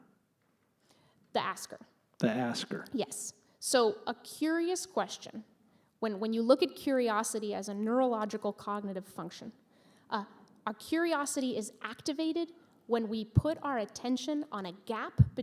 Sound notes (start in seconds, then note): none